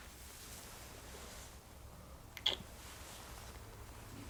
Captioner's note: more kissy noises